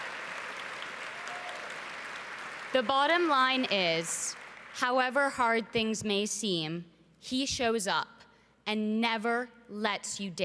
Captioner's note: cheering and Applause